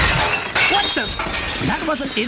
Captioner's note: comically loud disturbance